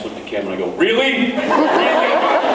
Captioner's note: laughs